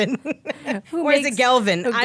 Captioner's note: laughing